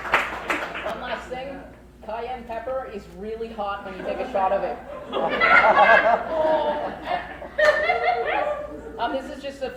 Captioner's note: crowd laughs